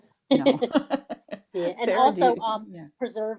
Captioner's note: laughter